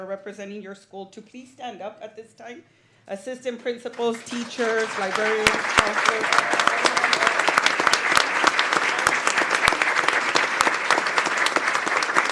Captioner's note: applause